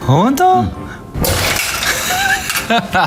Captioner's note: clank!!